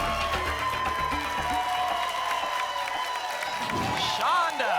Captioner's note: applause and cheering cont